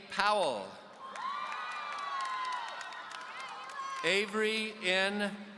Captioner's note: audience cheering